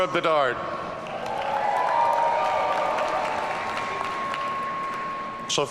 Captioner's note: audience cheering